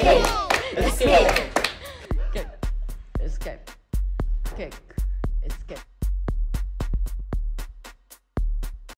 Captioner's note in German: klatsch, klatsch